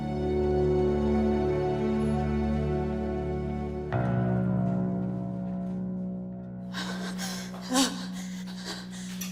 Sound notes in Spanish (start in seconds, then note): 1.5 Jadeos y gemidos